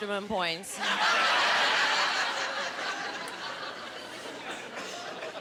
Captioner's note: laughing